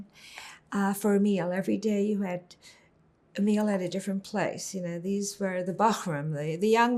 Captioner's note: hebrew